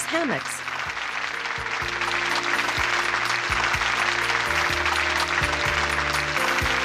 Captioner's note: audience applauding